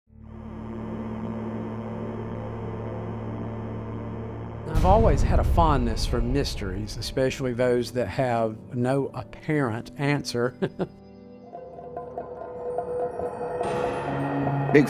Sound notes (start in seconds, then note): 0.5 mysterious music; 10.5 laughs; 11.0 tense music